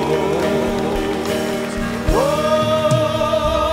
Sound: applause

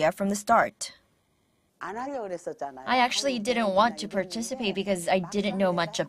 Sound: Korean

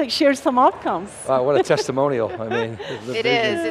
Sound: laughs

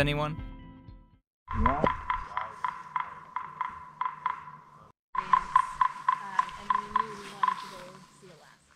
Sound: woodpecker taps

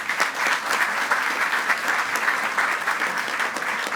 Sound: group applauding

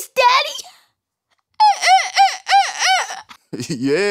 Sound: silly laugh

